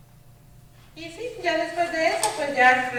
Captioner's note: speaking spanish